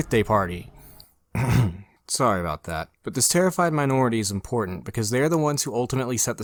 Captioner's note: ahem